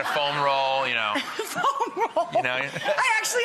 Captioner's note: laughs